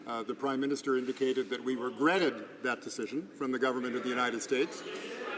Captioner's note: some Applause